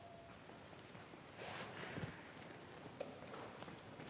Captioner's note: footsteps thudding